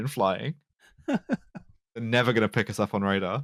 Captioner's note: laughs